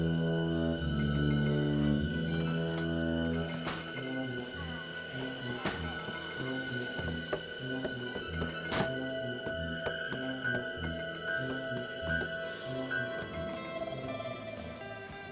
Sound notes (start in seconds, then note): 1.6 rattling; 6.1 knocking On Door